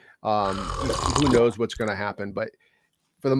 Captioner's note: slurps